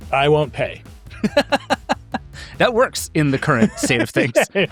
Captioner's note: laughs